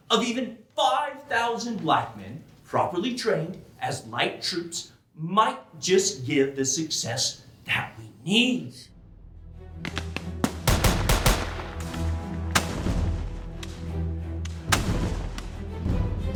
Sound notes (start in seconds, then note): 8.9 suspenseful music; 10.4 gunfire banging